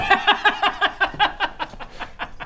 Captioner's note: impressed laughter